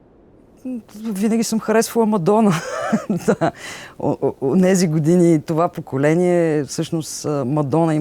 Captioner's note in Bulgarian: смее се